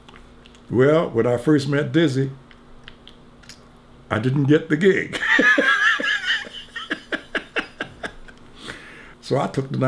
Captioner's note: laughs